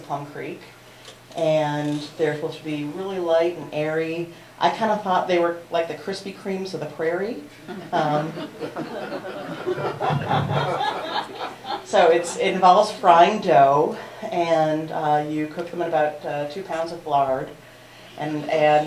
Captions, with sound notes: Plum Creek. And they’re supposed to be really light and airy. I kind of thought they were like the Crispy Creams of the prairie. [Laughter] So, it involves frying dough, and you cook them in about two pounds of lard.